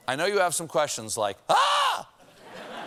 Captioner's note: laughter